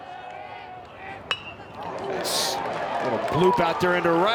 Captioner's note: bat dings